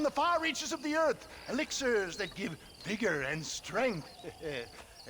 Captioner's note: laugh